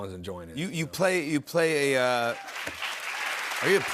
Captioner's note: cheers and applause